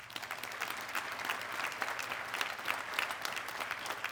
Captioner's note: audience clapping